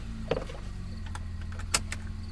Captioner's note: engine starts; seat belt clicks